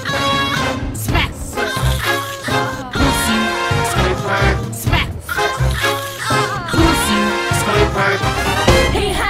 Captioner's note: slurping noises